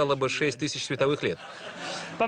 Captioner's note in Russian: Смех в зале